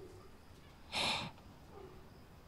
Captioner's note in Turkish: Hızla Nefes Alıyor